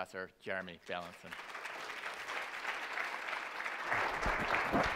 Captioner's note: audience applauding